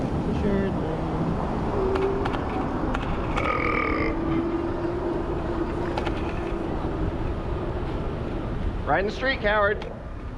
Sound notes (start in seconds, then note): 3.3 buuuurrrp